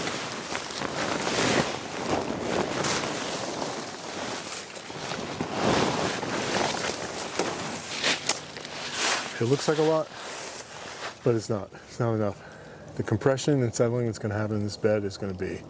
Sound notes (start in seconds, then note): 13.0 leaves settle